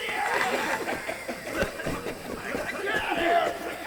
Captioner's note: guards coughing violently